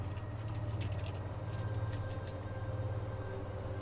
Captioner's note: keys jangle